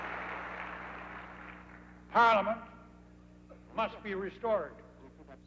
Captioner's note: applause